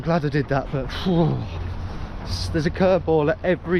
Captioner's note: groans